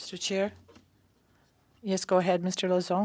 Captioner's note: speaking French